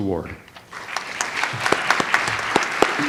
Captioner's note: audience applauds; light jazz music